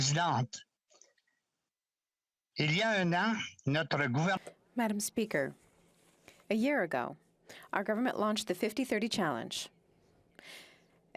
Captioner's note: speaking French